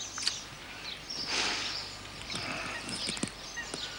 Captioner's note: inhales deeply